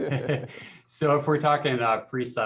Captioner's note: laughs